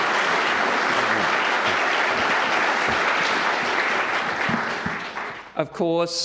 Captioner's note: audience applauds